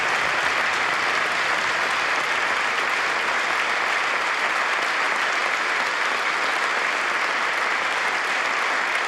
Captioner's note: applause